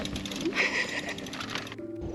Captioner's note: laughter